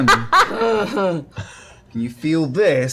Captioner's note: affirmative grunt